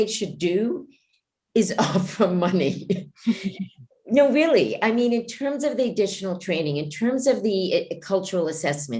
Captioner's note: laughs